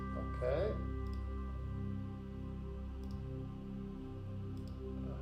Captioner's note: mouse clicking